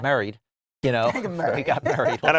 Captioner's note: laughs